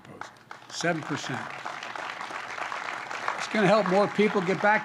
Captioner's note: applause